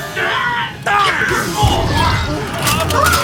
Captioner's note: grunting